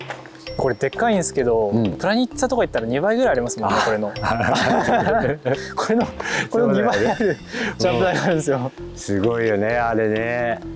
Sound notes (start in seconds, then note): 4.2 laughing